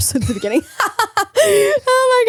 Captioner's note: both laughing